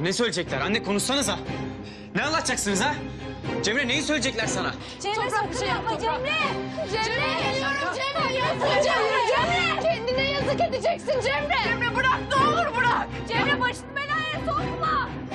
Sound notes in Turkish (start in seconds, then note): 5.4 Bağırışmalar